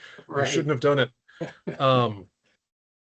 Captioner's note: laughing